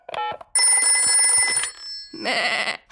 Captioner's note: phone rings; bleats